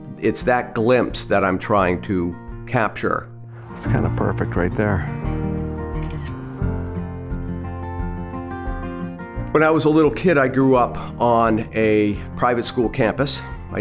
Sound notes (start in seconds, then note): 6.0 camera clicking; 6.7 soft music